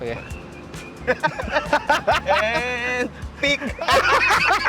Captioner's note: both laugh; both continue laughing